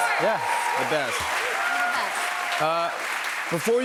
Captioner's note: cheers and applause